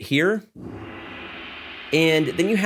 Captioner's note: gong sounds